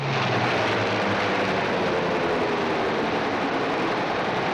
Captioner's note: engine rumbling